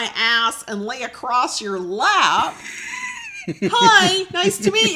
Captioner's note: laughing